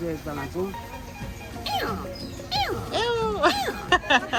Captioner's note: animal sounds